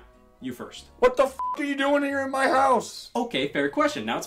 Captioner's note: beep